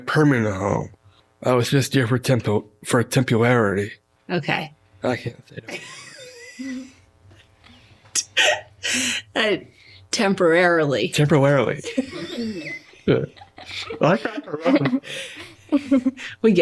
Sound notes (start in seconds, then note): 7.0 laughing; 13.4 laughter continues